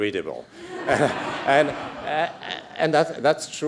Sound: laughter

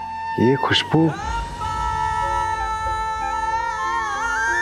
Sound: emotional vocalising

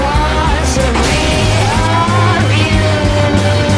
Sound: crash

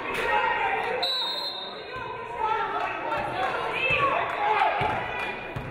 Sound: referee blows whistle

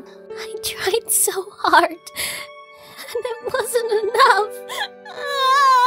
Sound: sobs

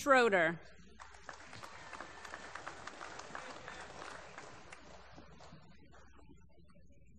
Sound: applause

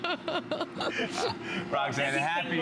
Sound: laughter

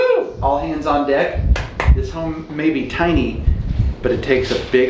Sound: clapping

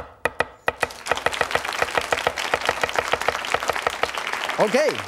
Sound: audience clapping

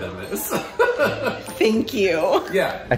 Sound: laughing

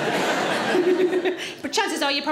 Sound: audience laughs

